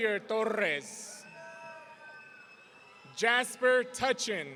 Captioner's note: audience cheering